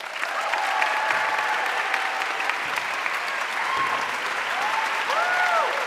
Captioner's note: audience cheering and applauding